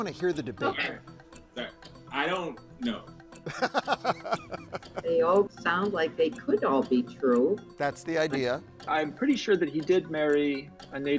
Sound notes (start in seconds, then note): 3.4 laughing